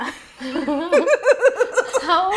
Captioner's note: laughing